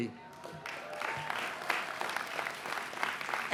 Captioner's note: applause